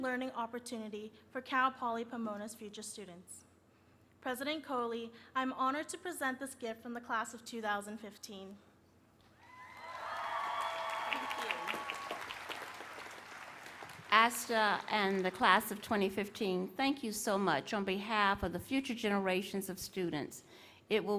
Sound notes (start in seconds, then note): 9.4 applause